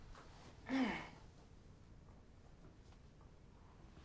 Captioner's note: groans